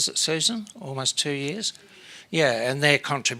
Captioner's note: speaks faintly